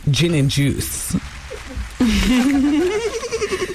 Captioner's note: laughter